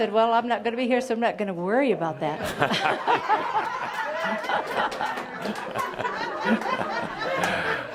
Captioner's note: laughter